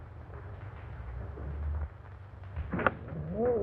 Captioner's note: Satan growling